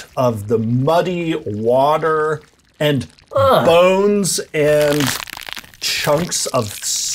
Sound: squelchy noises

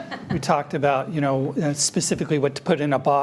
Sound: people chuckling

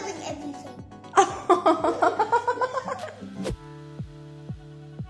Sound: laughs

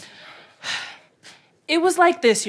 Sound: audience laughter; sigh

